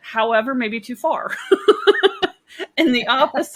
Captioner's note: laughing